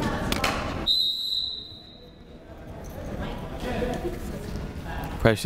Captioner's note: whistle shrills